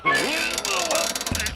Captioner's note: chuckles; strained grunts